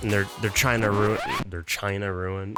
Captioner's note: record scratch